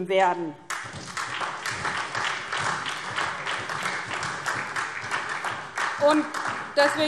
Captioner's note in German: Beifall SPD